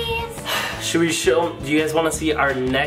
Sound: sighs

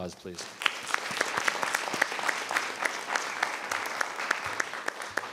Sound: everyone applauding

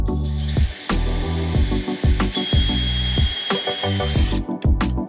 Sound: relaxed music; drill hums; relaxed music

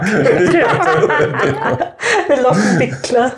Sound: laughter

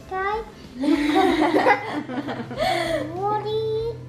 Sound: all speakers laugh together

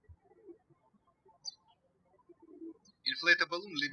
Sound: birds chirping

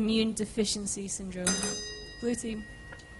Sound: bell

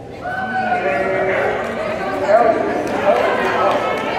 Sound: confused Cheering

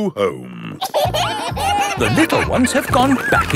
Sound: kids giggling

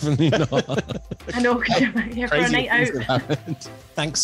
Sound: all laughing

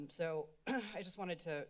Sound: clears Throat

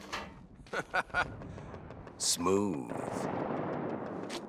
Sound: laughing

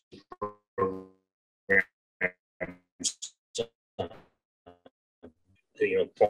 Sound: audio stutters

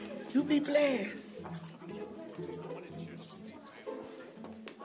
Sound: crowd chattering indistinctly

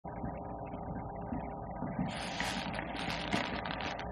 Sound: breathing

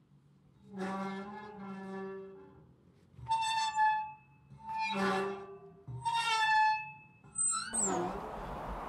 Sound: swings squeaks

